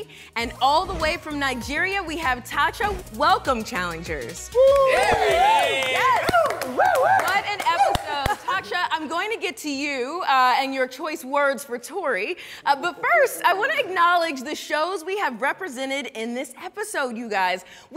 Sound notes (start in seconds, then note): 4.5 challengers cheer